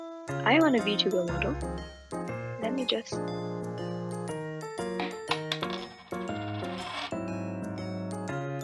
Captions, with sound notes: I want a vtuber model… Lemme just - *clatter*